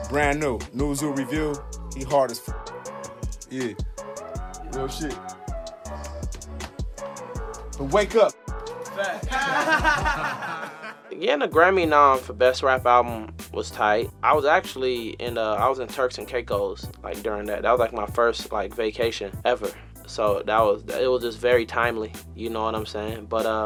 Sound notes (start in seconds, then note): 6.0 light tapping; 9.2 small crowd laughing